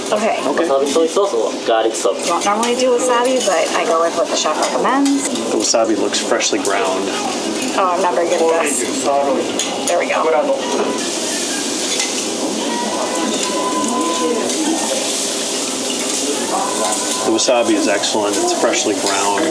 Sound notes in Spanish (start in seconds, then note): 11.0 sonidos de chisporroteo